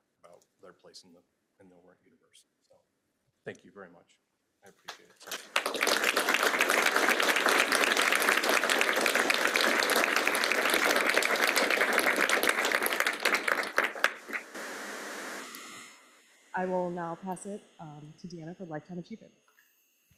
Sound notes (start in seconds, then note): 5.3 applause